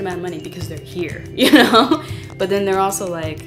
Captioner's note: laugh